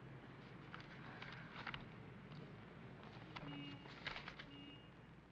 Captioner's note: papers rustle